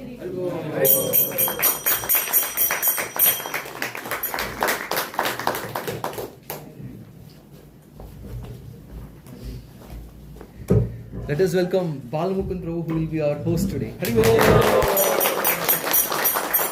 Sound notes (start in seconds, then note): 0.1 singing; 6.9 applause